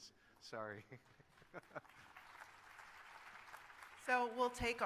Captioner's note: applause